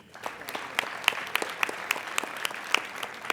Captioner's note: applauding